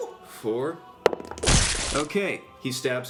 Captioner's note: stabbing sound